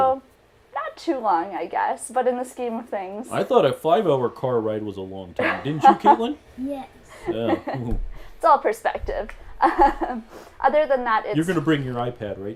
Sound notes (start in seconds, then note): 10.0 laughs